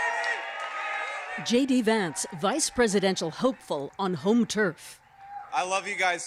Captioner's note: cheers and Applause